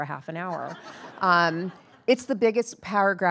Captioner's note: attendees laughing